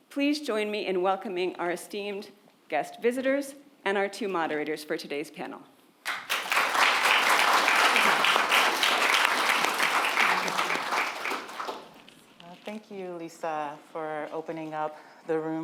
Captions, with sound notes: Please join me in welcoming our esteemed guest visitors and our two moderators for today's panel. (audience applaud) - Thank you, Lisa, for opening up the room for us all